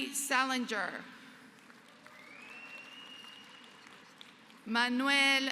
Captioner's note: applause